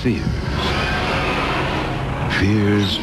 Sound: people screaming

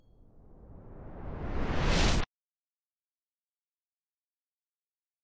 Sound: electronic swoosh

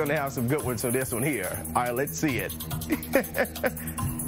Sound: laughter

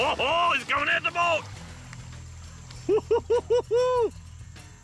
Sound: laugh

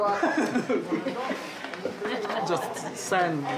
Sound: laugh

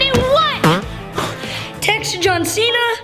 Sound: farting

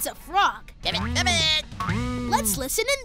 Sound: frog croaking

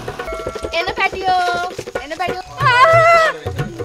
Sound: screams

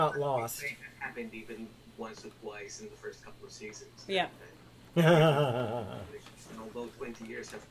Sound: laughter

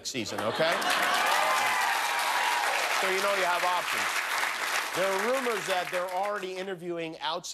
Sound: cheers and applause

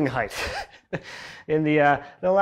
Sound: laughing

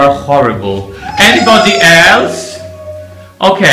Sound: crying

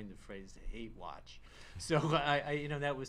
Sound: laughs

